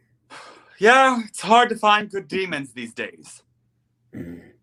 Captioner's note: sighs